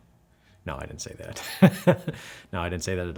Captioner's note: laughs